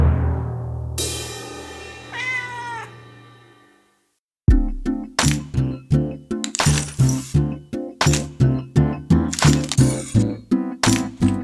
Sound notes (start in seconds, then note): 0.0 cymbal crashes; 2.1 cat meows; 4.5 bright music